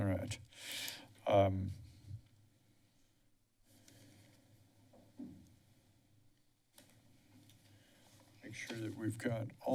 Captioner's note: silence